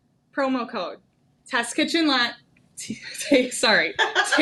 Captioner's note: laughing